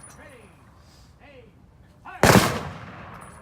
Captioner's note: gunshots